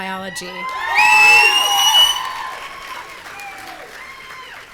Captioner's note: audience cheering